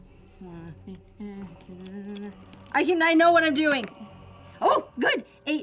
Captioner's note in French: grogne; bégaie